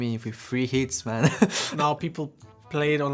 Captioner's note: laughs in pain